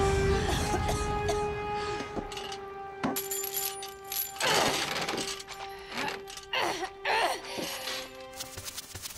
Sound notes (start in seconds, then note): 0.4 coughing; 4.0 grunting